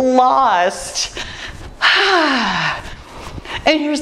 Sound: sighs

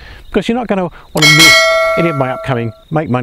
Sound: bell clanging

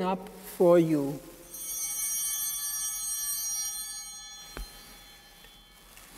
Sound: chimes ringing

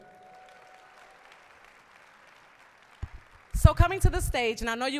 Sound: applause

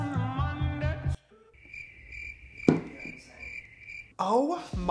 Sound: crickets chirping

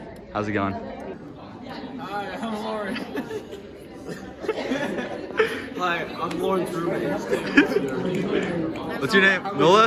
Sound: laughs

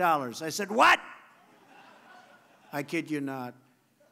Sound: laughter

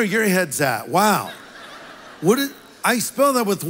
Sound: congregation laughs

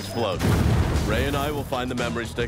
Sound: explosion

